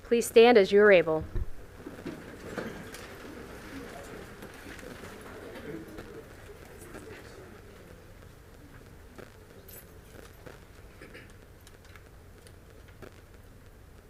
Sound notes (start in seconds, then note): 1.6 silence